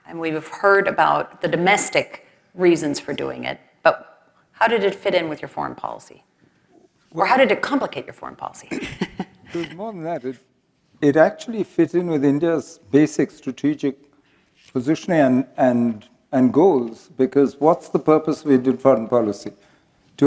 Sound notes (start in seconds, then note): 8.7 laugh